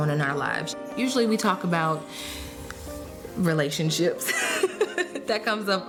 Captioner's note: laughing